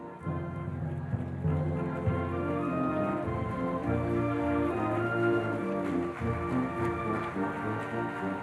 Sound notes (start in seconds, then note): 1.6 audience applauding; 1.6 regal music